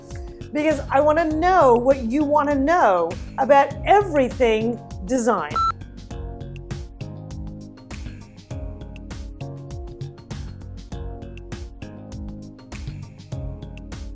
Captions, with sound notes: Because I want to know what you want to know about everything design. (beeping) (gentle music)